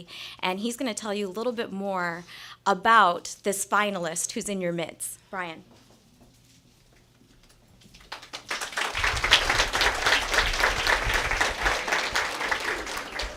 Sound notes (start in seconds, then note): 9.4 applause